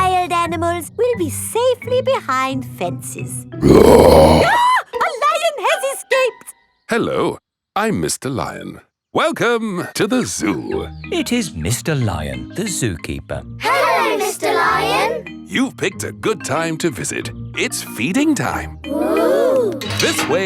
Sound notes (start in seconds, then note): 3.6 roars; 3.6 screams